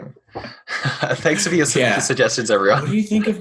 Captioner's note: chuckles